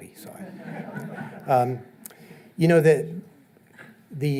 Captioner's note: audience laughing